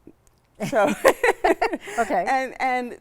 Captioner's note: both laughing